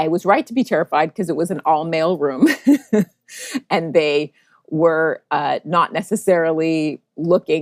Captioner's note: laughs